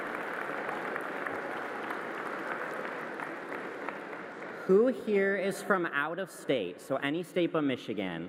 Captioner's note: applause